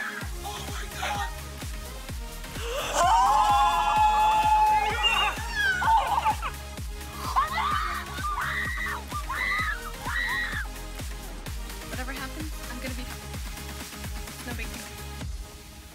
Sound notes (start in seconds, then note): 2.5 gasps; 7.2 screams